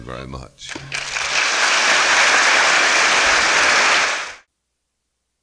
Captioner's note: applause